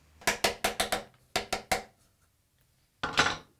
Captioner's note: mallet taps